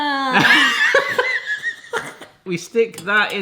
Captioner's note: both laughing